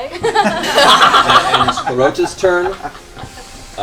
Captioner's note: laughter